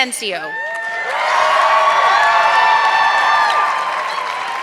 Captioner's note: audience clapping